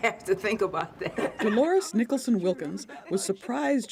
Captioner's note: laughter